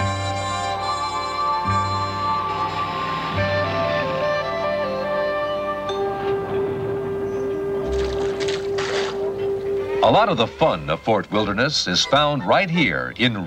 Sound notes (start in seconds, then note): 3.3 upbeat music; 7.7 water splashing